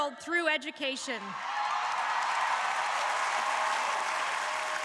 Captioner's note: crowd applauding